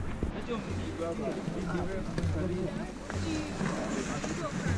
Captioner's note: group chatting